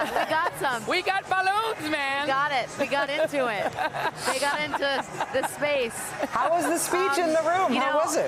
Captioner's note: laughter